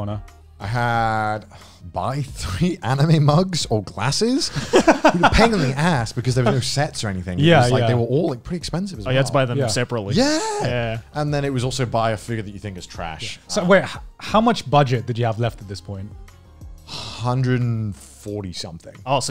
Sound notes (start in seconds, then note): 4.4 laughs